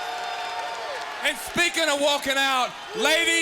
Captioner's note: crowd cheering